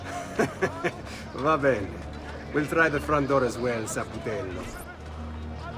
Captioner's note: laughs